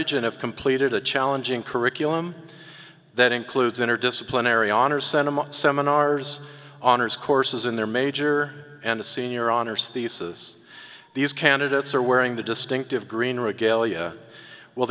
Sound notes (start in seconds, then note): none